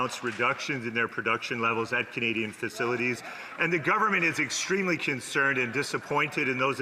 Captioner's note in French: voix de l'interprète